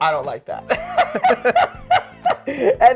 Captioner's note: both laughing